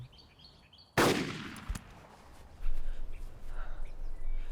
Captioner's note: gun bangs